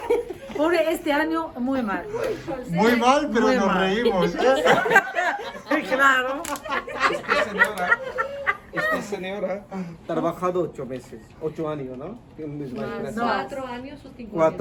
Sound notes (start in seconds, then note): 4.0 laughter